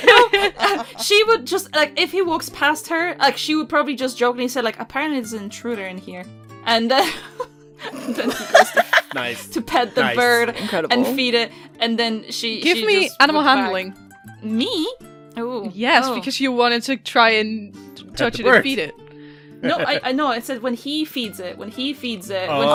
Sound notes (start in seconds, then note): 0.0 laughter; 7.0 laughter